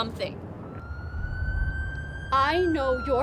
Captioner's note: siren blaring